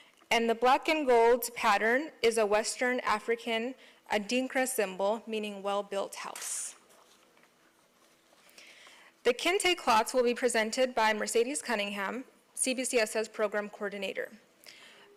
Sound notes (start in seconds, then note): none